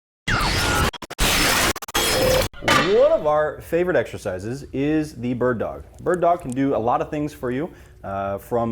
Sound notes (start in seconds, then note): 0.3 zapping sound effect